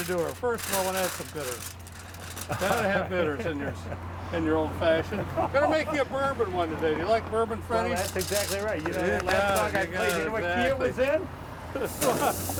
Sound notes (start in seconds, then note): 1.6 aluminum crinkling; 2.3 chuckling